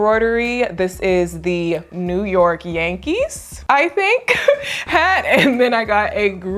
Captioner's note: laughing